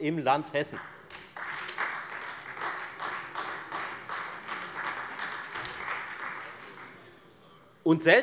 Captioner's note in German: Beifall Freie Demokraten